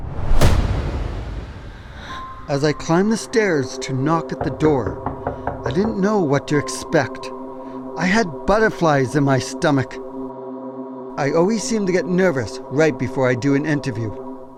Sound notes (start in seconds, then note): 0.3 intense suspenseful music; 4.3 knocking on door